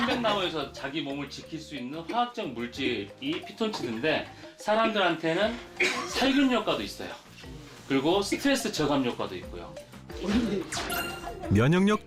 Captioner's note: voiceover